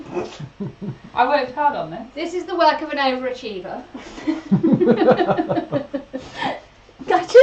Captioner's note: EVERYONE laughs